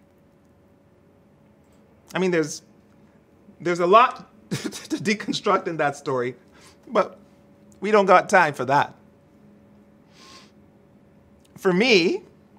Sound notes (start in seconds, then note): 4.5 chuckles